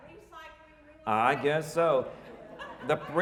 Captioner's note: audience laughing